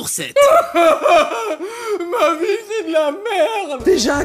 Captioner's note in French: pleure